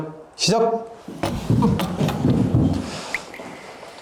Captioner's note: everyone laughs